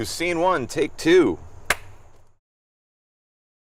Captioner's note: claps